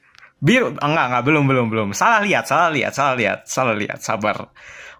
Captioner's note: gasp